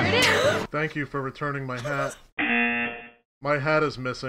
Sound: laughs; buzzer rings

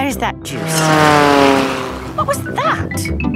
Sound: plane flies

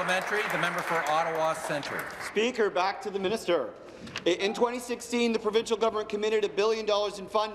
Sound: applause

